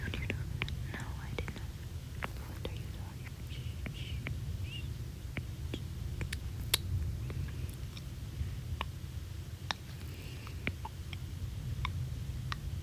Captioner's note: clicking